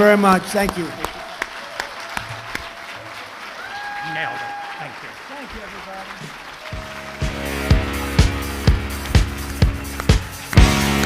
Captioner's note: applause